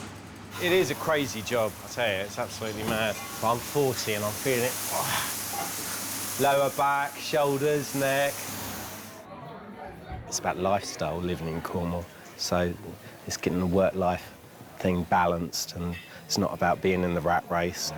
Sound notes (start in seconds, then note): 4.8 groans